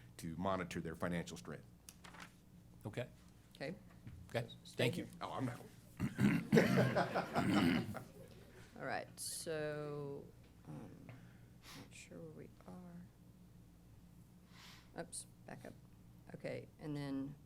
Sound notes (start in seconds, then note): 6.1 laughter